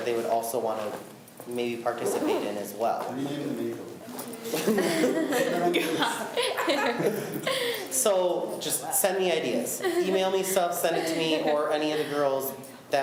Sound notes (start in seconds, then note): 4.4 laughs